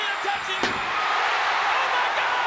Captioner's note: chair thuds; audience cheers